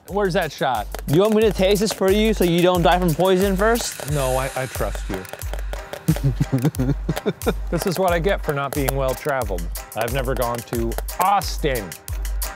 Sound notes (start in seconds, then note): 6.0 giggling